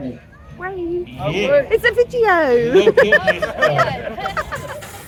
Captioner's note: laughing